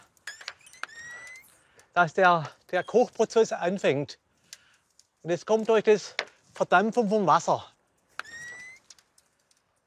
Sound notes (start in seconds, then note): 0.1 alternate whistling; 8.2 whistles